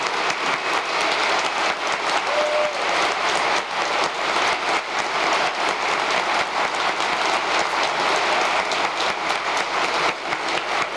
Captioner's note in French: applause